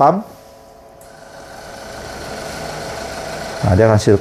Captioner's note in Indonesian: suara mesin printer